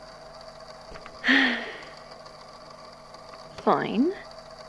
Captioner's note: sighs